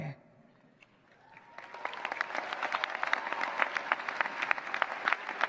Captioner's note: cheers, applause